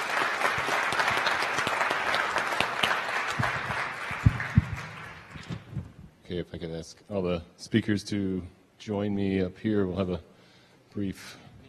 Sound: applause

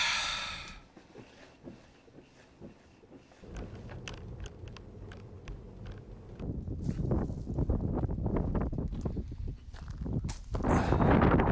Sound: wind blowing, increasingly louder

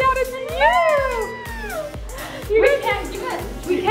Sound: squeals

